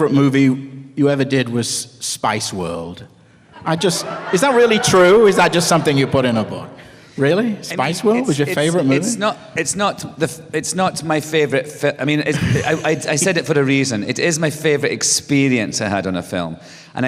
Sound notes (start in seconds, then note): 3.6 laughter, cheers